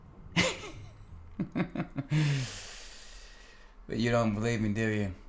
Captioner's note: Brad chuckling